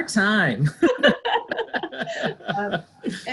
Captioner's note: laughter